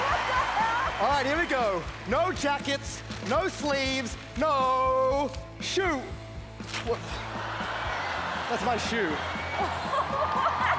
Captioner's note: cheering